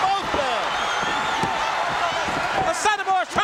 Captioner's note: audience cheering